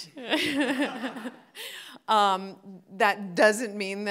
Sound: all laughing

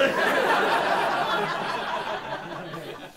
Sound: laughter

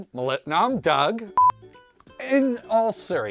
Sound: beep

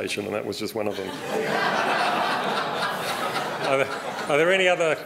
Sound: laughter

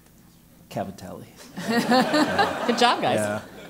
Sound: laugh

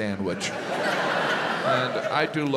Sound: audience laughs

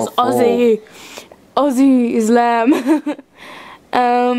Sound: laughs

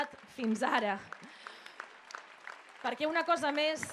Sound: applause

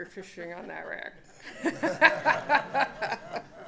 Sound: laughter

